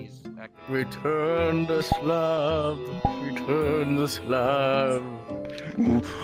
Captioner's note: ghostly voice